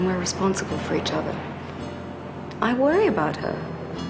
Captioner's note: none